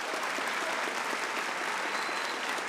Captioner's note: applause